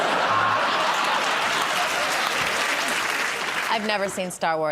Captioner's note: laughter